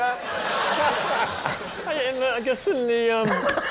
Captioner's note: audience laughing